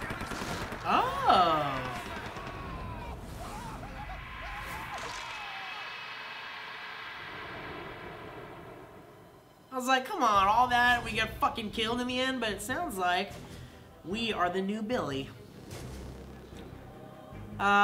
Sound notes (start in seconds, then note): 0.0 gunfire; 3.5 terrified screaming